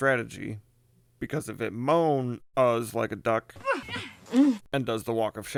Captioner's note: Moana moaning